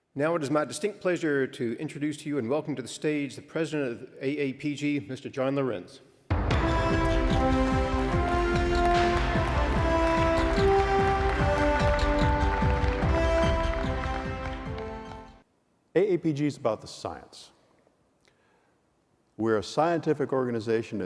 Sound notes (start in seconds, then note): 7.1 applause